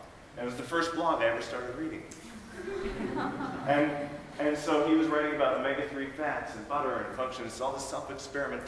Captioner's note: laughing